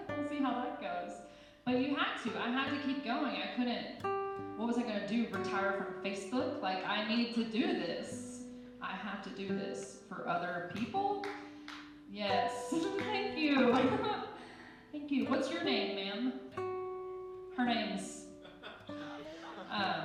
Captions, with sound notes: See how it goes when you have to, I have to keep going. I couldn't, what was I gonna do? Retire from Facebook? Like I need to do this. I have to do this for other people. (claps) Yes, thank you, what's your name Ma'am? Her name is. (laughing)